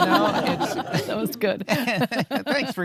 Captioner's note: all laughing